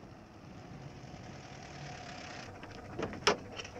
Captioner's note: sounds of a van; the van door shuts